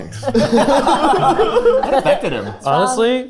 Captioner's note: group laughing